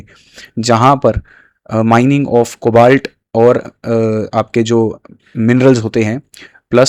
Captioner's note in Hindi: नाक से की जाने वाली आवाज़